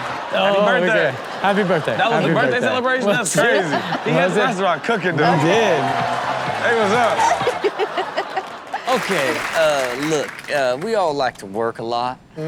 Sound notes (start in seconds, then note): 7.2 Karrueche laughing